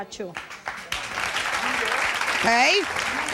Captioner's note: audience applauding